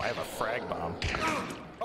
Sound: gunshot; pained grunt

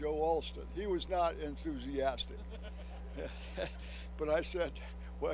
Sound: chuckles

